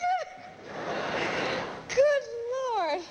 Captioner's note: audience laughs